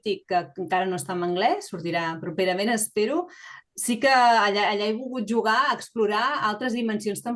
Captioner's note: continues speaking in Catalan